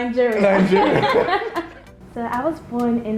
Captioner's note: laughing